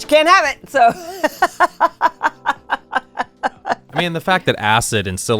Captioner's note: laughs